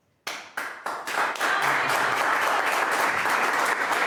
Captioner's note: all clapping